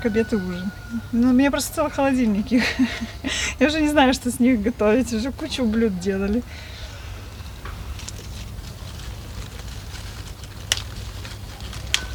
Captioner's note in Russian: смех